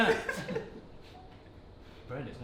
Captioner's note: short confusion pause